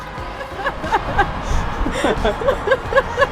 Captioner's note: laughter